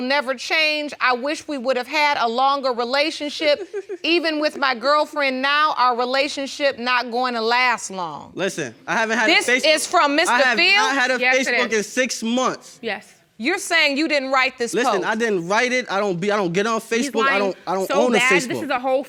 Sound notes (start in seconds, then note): 7.5 audience gasping